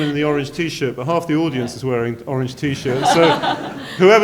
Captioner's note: laughter